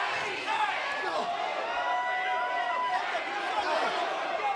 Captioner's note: crowd shouting